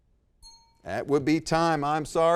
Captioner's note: bell rings